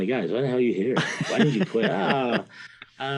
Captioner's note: interviewer laughing